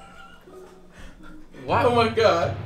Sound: both laughing

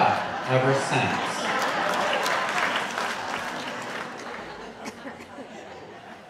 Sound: audience laughing and clapping

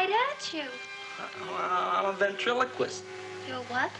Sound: stammers

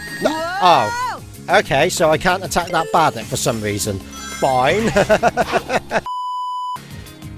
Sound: laughter

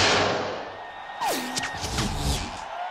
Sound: crowd cheering

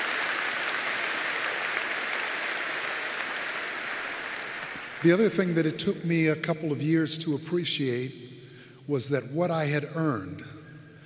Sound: applause

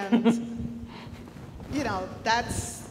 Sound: chuckles

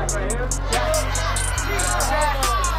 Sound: crowd; crowd cheering

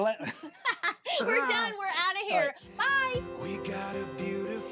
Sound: laughs

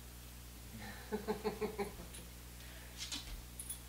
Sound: laughs

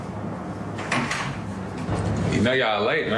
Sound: traffic roaring

